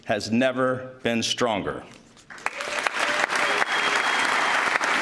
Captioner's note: applause